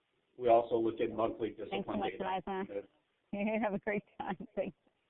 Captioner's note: woman's voice talking to someone else